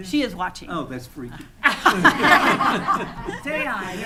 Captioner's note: attendees laughing